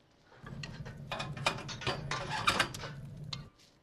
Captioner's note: metallic clattering